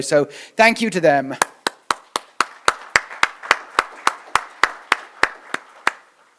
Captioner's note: applause